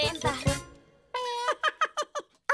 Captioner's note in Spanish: risas